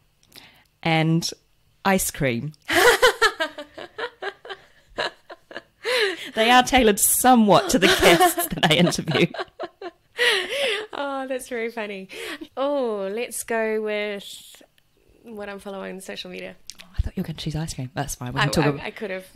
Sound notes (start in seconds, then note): 2.7 laughs